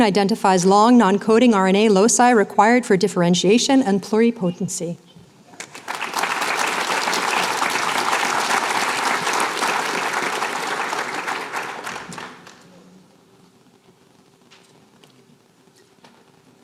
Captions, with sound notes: Identifies Long Non-coding RNA Loci Required for Differentiation and Pluripotency. [APPLAUSE]